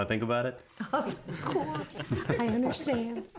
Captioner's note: everyone giggling